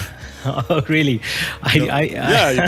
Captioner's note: laugh